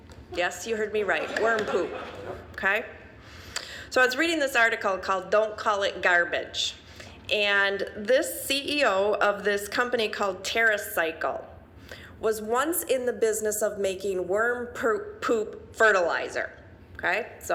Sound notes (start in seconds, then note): 1.0 audience laughing